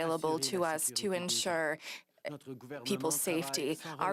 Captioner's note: speaking French